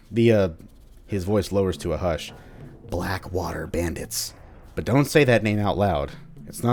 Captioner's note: his voice lowers to a hush